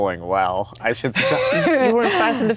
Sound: Gal laughs

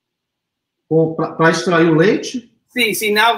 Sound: speaks portuguese

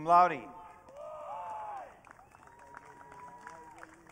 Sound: audience cheering

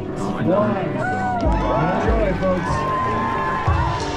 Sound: audience cheering; upbeat music

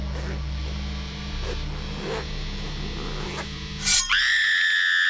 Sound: tent flap unzipping; screaming

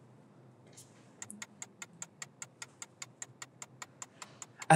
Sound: ticking

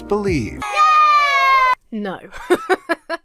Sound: children cheering; laughs

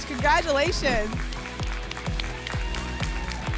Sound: applause and cheering

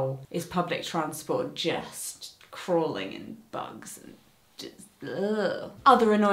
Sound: groans

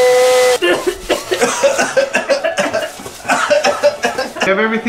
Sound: loud coughing

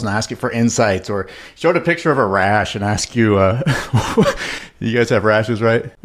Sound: laughs

